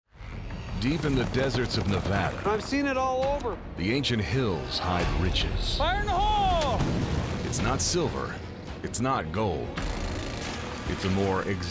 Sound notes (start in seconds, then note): 6.7 explosion; 9.8 drill pounding